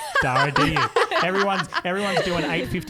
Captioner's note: laughing together